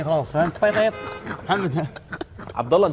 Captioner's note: laughing